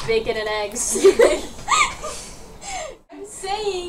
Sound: laughter

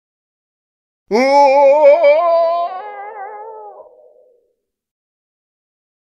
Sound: male scream

